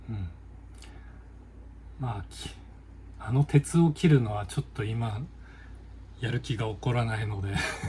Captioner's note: laughs